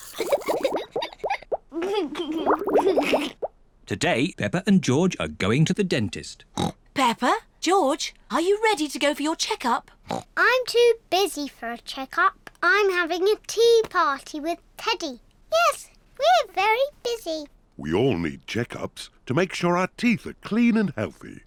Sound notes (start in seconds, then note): 0.0 giggles; 6.5 oinks; 10.1 oinks